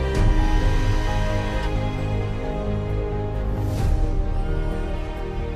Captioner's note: machine buzzing; inspirational music